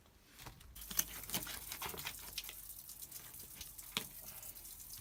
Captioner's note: water running